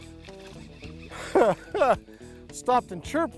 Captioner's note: laughs